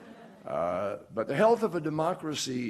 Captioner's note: laughter